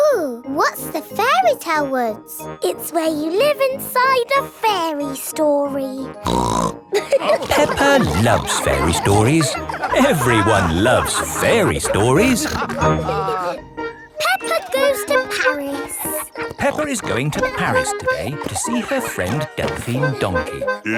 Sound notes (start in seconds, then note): 6.2 snorts; 6.9 all laughing